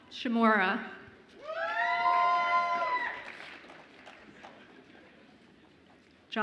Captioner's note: audience applauds and cheers